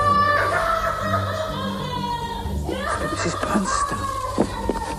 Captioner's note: scream